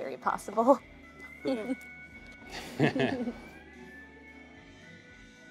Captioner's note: both chuckle